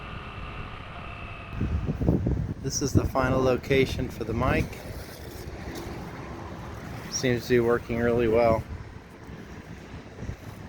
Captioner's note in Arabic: رياح